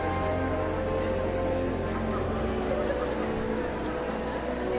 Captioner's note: audience chattering continues